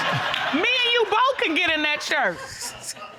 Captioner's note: audience laughing